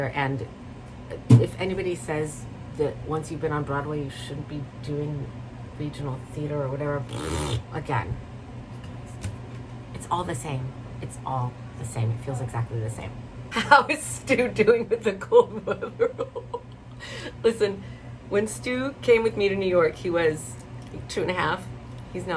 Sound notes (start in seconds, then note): 7.2 spatters